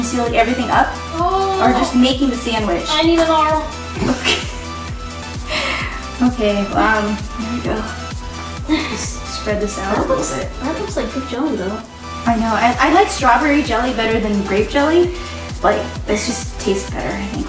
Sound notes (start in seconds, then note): 3.8 laughs lightly